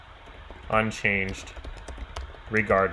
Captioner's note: keyboard clicking